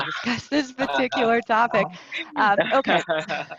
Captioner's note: laughing